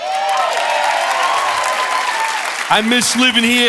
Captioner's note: audience cheering and applauding